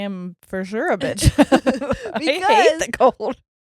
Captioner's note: laughing